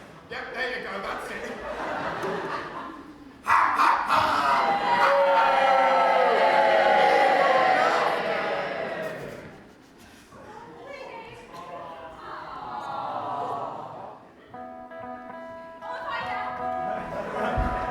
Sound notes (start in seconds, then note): 3.5 audience boos; 12.4 awwwww